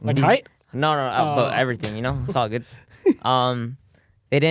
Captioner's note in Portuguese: risos